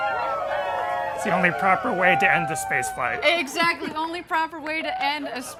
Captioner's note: laughter